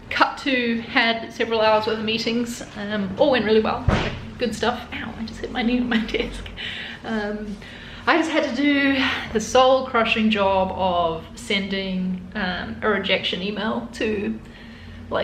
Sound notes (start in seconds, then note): 3.8 knee banging